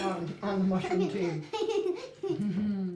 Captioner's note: laughs